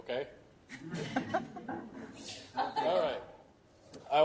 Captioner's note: laughter